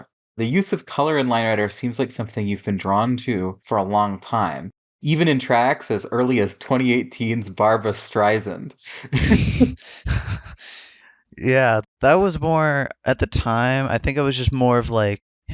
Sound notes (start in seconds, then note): 8.9 both laugh